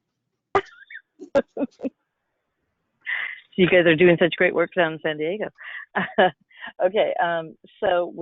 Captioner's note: laughs